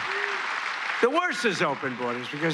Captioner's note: applause